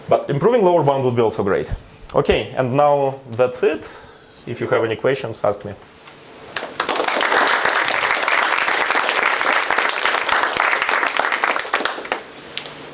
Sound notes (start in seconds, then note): 6.5 applause